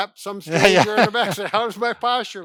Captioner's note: laughing